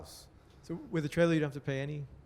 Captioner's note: voiceover